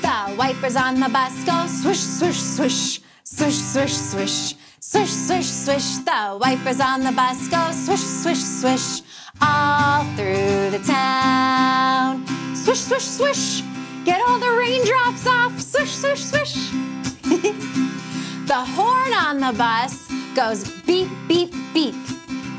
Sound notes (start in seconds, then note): 17.1 chuckling